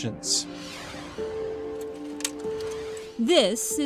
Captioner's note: ambient upbeat music; whooshing